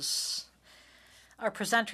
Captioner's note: speaking French